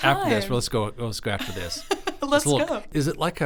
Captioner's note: laughs